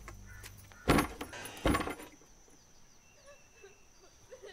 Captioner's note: door open